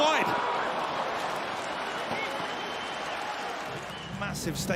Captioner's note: crowd cheers and applauds